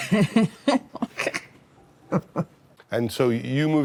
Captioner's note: both chuckle